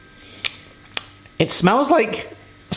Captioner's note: lips smacking